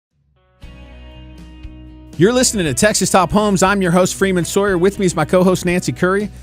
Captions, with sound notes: (bright music) - [Voiceover] You're listening to Texas Top Homes, I'm your host Freeman Sawyer, with me is my co-host, Nancy Curry,